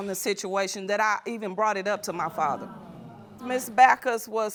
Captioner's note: audience groaning